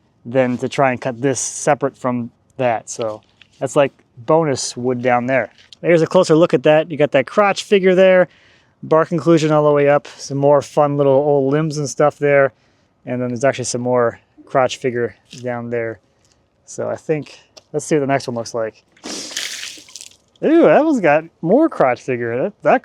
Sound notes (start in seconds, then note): 19.0 water splashing